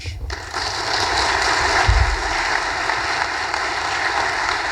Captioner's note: audience applause